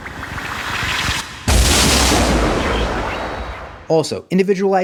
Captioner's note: explosion